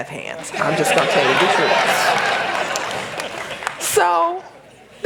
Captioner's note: laughter